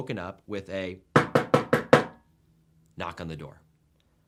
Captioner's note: knocking forcefully